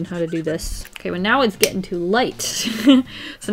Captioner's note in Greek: Γέλια